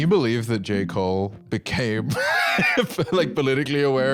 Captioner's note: laughs